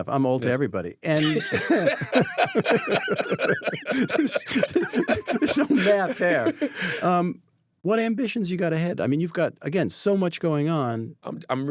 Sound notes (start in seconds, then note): 1.2 both laughing